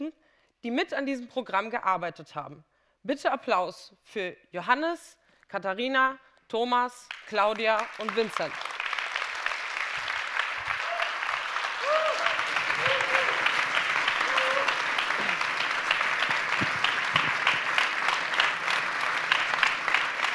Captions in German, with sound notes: die mit an diesem Programm gearbeitet haben. Bitte Applaus für Johannes, Katharina, Thomas, Claudia und Vincent. [Applaus]